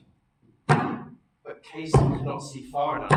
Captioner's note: feet stomping